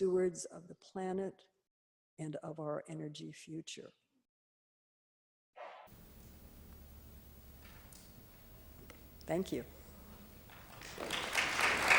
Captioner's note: applause